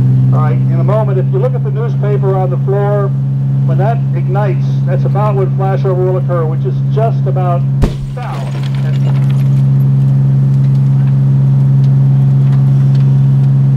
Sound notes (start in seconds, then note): 7.8 thump; 7.8 glass breaking